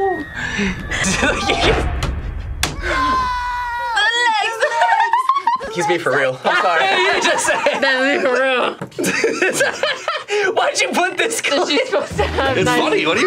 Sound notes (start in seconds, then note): 0.9 laughing; 4.4 laughing; 9.0 chuckles; 11.6 laughing